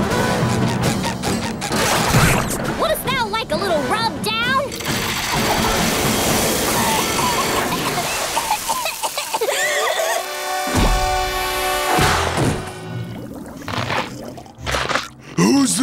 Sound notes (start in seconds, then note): 6.7 coughing; 8.1 gasps; 13.3 cracking